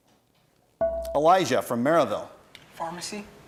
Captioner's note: bell rings